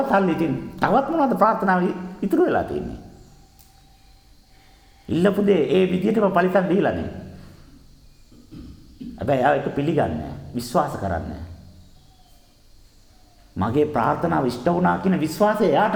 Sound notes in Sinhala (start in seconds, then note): 8.3 උගුර කෑරීම